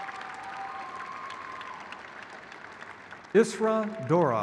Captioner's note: crowd cheers